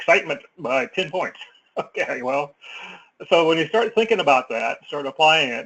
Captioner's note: laugh